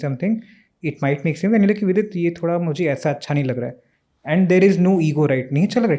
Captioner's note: speaks in Hindi